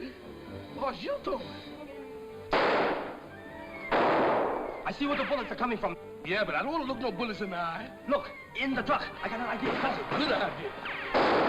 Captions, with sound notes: - It was you though. (gun fires) - I see where the bullets are coming from. - Yeah but I don't look no bullets in the eye. - Look, in the truck! I got an idea. - Good idea!